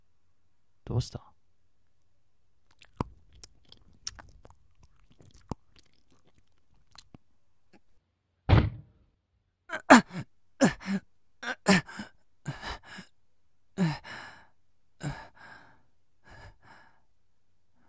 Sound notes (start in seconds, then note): 9.7 grunts in pain